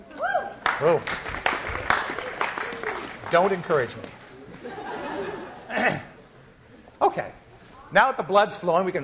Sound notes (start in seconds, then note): 0.6 applause; 4.4 class laughing